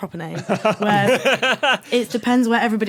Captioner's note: laugh